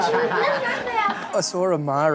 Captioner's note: laughing